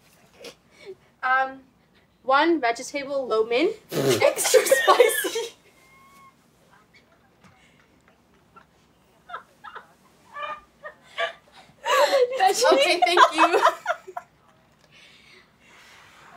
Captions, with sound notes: Um... one ve-ge-table lo mien. - (Explosive laughter) - Extra spicy! (Laughter) - Okay, thank you!